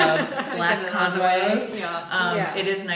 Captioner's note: group laughing